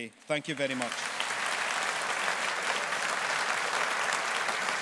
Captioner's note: audience applauding